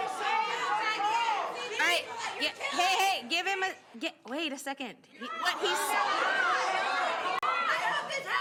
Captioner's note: crowd noise